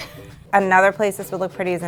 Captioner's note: giggles